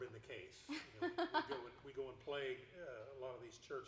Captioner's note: laughing